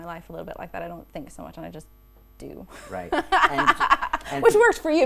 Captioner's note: laughing